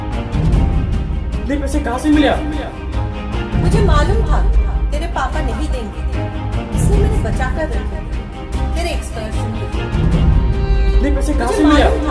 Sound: echo

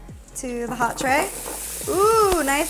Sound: food sizzling; vegetables tapping

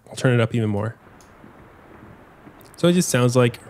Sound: rain pattering

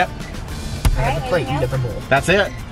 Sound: woman In Speakerphone

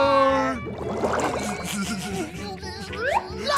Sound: stifled laughter

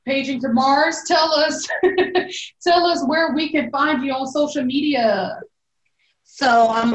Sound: laughs

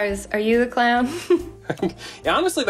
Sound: laughs

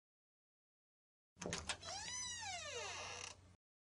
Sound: door opening sound

